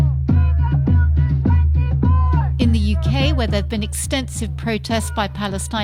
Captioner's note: chanting